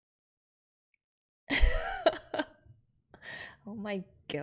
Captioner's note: laughs